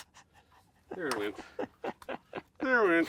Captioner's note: laughing